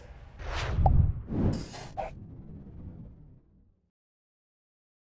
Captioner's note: logo whooshes